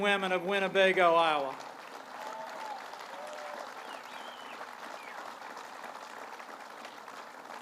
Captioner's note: applause